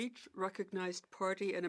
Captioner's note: speaking French